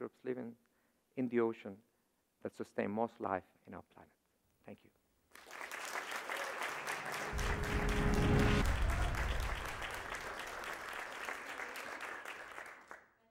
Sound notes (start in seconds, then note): 5.3 audience applauds; 6.7 reverberating music